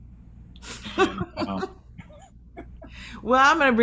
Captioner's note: laughing